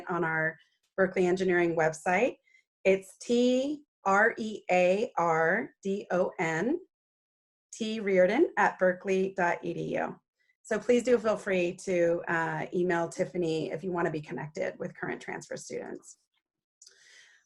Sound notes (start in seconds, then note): none